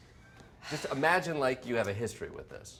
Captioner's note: sighing